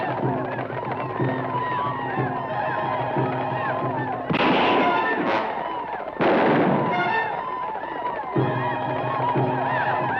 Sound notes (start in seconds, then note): 4.3 guns fire